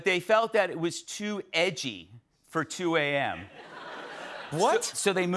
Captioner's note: laughter